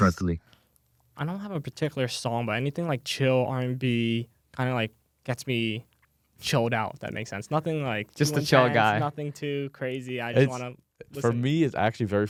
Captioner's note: laughs